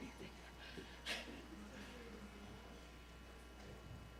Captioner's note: laughs